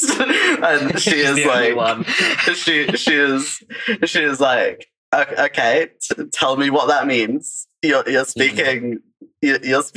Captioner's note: laughs